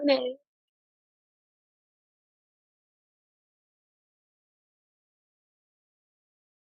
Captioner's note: silence